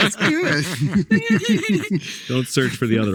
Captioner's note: group laughing